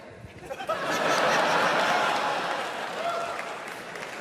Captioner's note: audience laughing